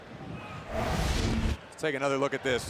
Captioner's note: screen whooshing